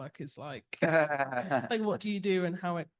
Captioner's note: laughs